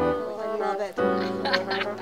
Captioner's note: laughter